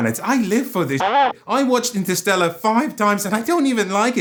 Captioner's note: rasp